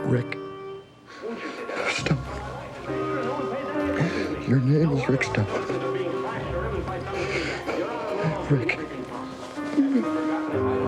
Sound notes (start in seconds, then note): 7.0 breathes uneasily; 9.2 groans